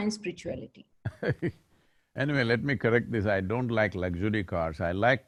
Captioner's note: laughs